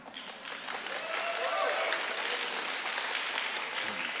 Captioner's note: audience applauding